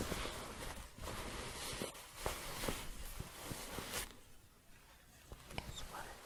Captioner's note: shuffling, light crinkling